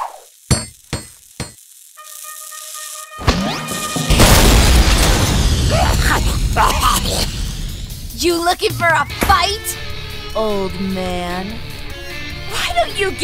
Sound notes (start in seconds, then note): 4.1 boom; 5.7 coughing